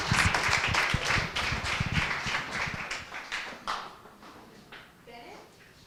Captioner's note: applause